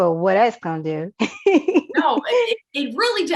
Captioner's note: laughs